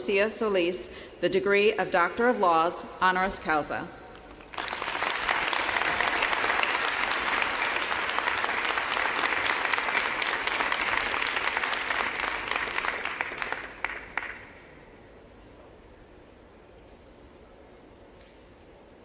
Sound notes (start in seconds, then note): 8.2 applause